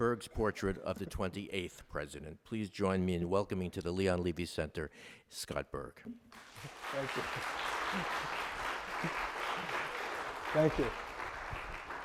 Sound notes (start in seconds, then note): 6.3 crowd applauding